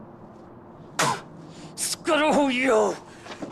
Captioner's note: spitting